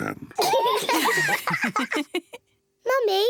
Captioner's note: all laugh